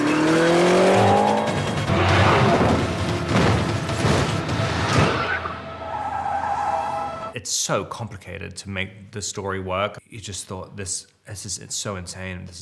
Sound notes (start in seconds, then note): 0.0 engines revving; 2.3 car thudding; 5.1 brakes screeching